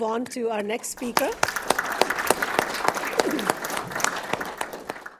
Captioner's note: audience clapping